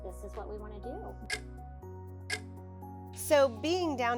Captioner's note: clock ticking